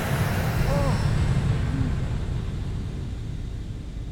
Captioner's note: gasping, Moaning